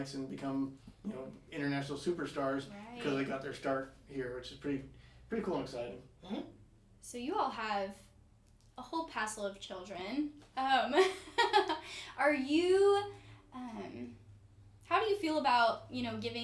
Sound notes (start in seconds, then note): 10.9 laughing